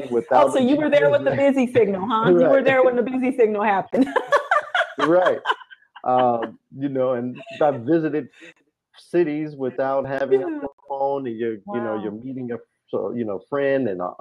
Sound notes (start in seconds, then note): 3.9 laughs